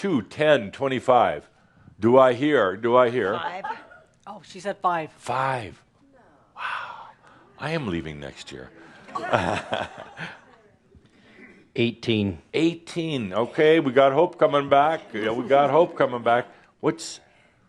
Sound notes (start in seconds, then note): 9.1 chuckles